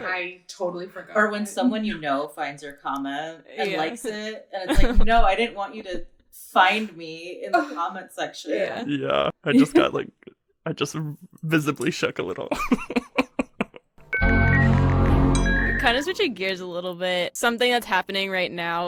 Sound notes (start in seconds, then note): 12.4 laughs; 14.1 overlapping technological sounds